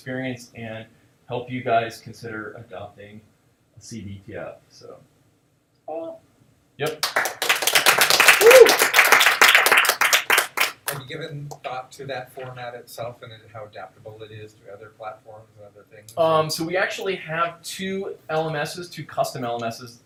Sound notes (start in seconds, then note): 6.9 audience applauding